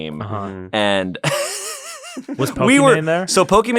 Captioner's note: laughs